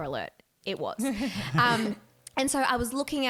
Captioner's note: laughing